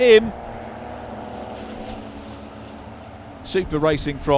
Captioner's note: car engines revving